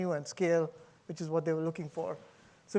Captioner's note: none